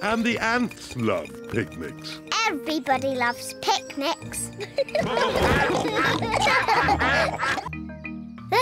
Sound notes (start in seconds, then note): 4.5 quacking; 4.6 all giggle